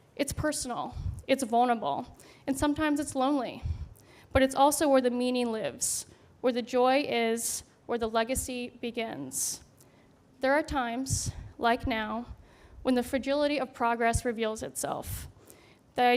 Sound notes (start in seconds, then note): none